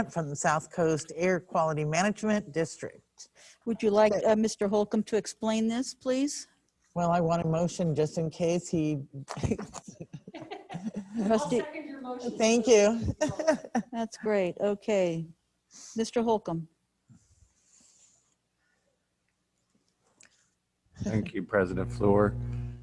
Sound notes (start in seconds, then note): 9.3 members laughing; 13.6 laughs